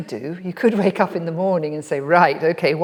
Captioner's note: laughs